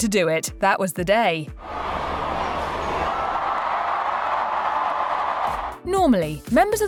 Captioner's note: kiss, crowd goes wild